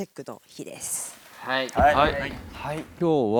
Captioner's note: hearts pounding